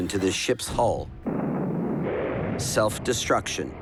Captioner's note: crashing